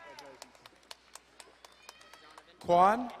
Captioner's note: audience clapping